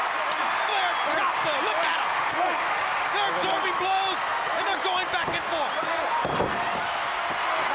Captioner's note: crowd cheering